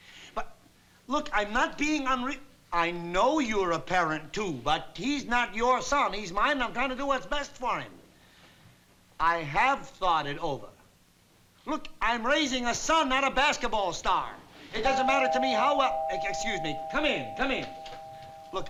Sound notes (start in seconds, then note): 14.8 doorbell chimes